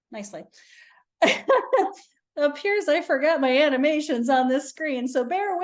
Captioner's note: chuckles